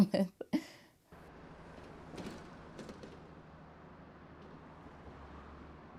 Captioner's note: sound of traffic